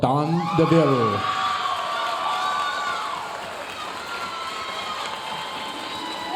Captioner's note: audience cheering and applauding